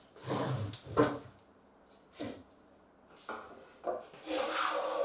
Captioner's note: wood on wood scraping; blade on wood scraping